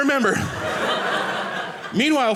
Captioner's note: audience laughing